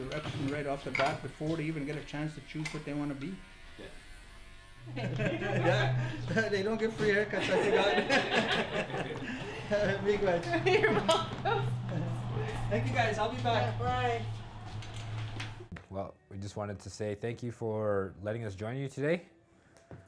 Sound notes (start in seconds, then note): 6.9 laughs; 9.3 laughter